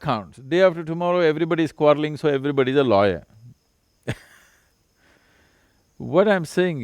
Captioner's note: laughs